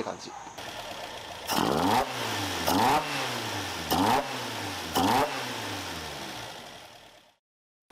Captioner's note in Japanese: エンジン音